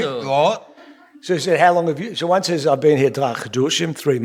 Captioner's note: speaking yiddish